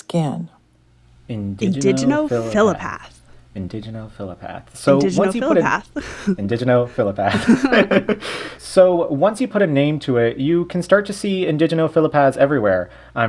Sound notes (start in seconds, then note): 7.0 laughter